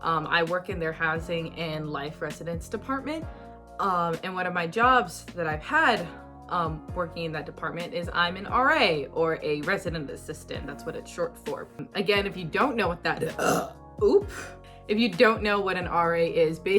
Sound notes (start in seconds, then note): 13.2 burps!